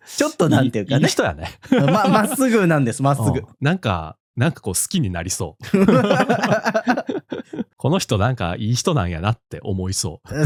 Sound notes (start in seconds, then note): 9.0 laughs